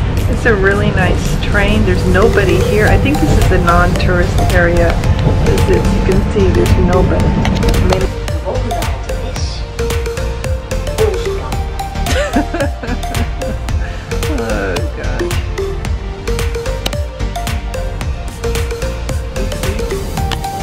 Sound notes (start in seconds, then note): 8.0 upbeat music continues; 12.0 laughs; 16.2 upbeat music continues